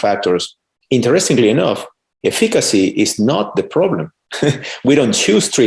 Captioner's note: laughs